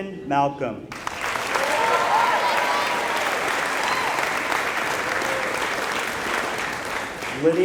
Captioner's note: applause